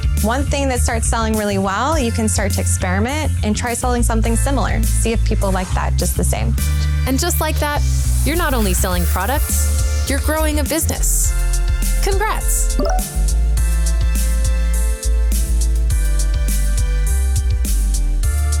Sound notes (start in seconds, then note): 12.8 electronic notes ring out; 14.9 upbeat electronic music